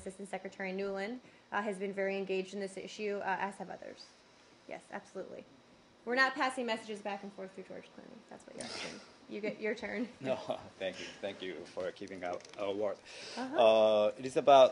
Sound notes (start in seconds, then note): 10.2 laughter